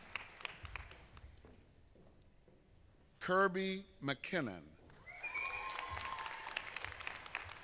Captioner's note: applause